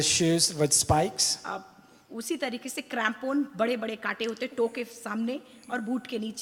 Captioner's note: speaks foreign language